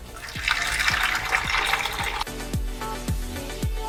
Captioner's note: water Filling sound